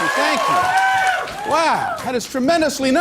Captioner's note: cheers and applause